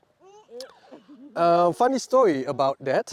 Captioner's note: baby and giggling